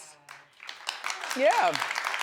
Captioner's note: audience claps